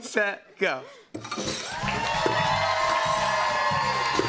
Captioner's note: cheers and applause